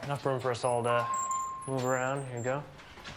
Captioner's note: door alarm dinging